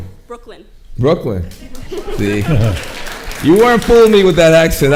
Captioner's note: laughing